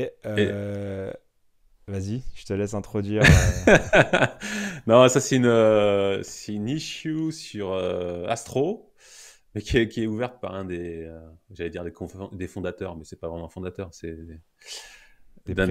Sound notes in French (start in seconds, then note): 3.2 Rires